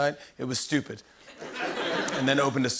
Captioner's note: laughter